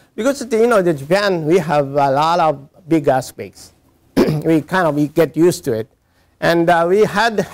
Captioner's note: cough